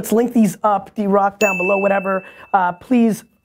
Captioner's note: chime dings